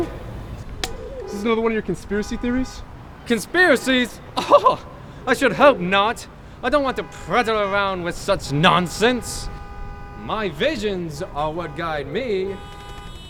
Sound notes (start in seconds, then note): 4.0 laughs in British